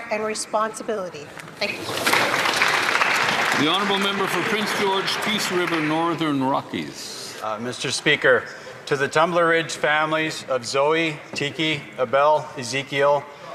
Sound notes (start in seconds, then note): 5.4 applause